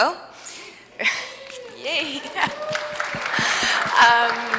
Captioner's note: audience members cheer; audience applauds